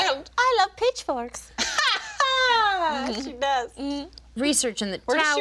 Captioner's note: laughing